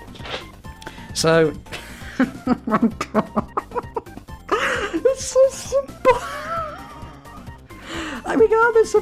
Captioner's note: chuckles; chuckles again